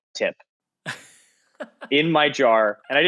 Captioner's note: laughing